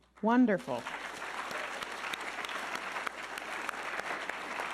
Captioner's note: audience clapping